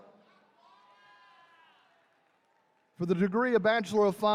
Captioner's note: attendees cheering